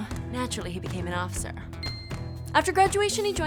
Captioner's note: ringing chime tone